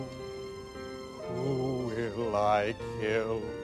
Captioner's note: sobbing